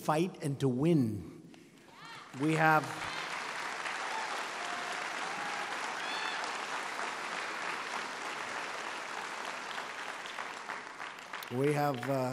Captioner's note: applause